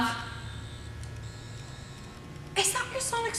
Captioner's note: sonic screwdriver buzzing